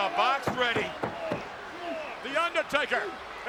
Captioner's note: hands tapping